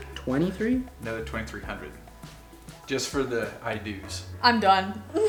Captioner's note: male Voice